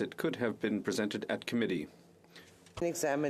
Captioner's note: speaking French